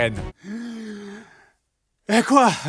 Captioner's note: inhale